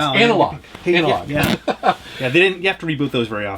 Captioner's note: laughs